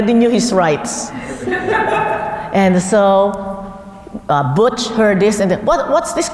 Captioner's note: laugh